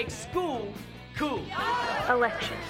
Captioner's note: cheering